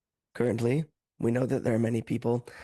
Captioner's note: speaking French